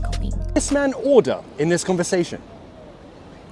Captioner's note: SCOUSE accent demonstration